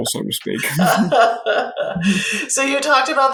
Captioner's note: both laugh